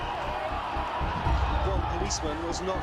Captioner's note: crowd shouting